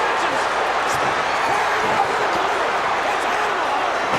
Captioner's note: crowd's roar drowns out commentary